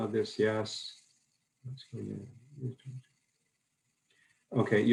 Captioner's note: faintly speaking